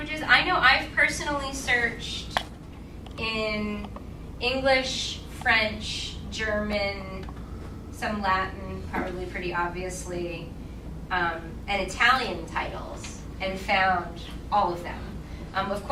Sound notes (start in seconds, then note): none